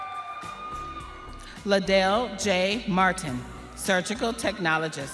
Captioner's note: audience cheering